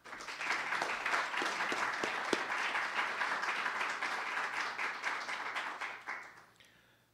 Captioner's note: applause